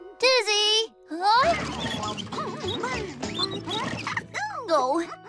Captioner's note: humming